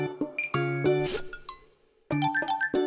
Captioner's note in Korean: 스윽